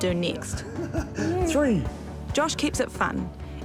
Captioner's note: laughs